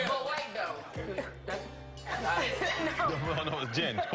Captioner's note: laughter